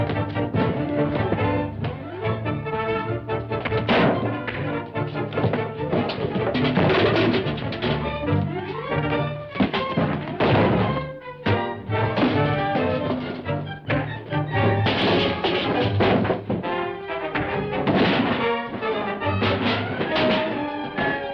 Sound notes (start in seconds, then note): 3.4 box clatters; 5.8 table clatters; 9.5 table thuds; 14.6 punch thuds; 14.7 cans clattering; 17.2 ladder clattering; 17.3 punch thuds